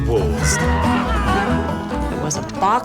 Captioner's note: screaming